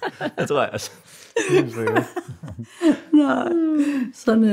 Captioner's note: laughter